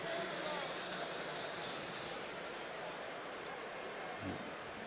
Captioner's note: pa announcement